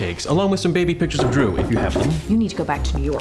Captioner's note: knocking on door